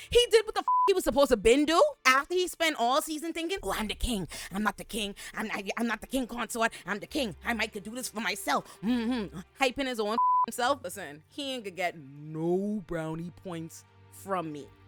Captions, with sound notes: He did what the (beep) he was supposed to bend to. After he spent all season thinking, well, I'm the king, I'm not the king, I'm not the king consort, I'm the king, I might could do this for myself. Hyping his own (beep) self, listen, he ain't gonna get no brownie points from me.